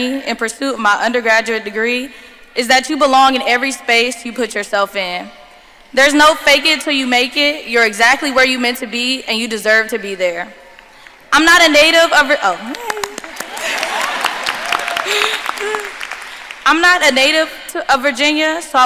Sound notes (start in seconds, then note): 12.7 claps; 12.7 audience laughing and applauding